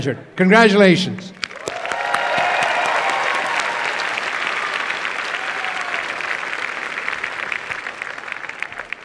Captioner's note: applause and cheering